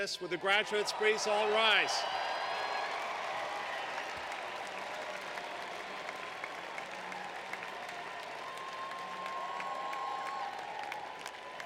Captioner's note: applause